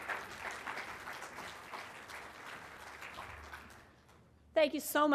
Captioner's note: applause